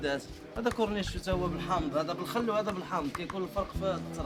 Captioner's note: people talking in background; speaking Arabic